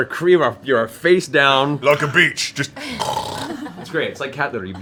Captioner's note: snore